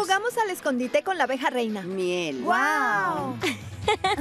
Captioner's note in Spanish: risas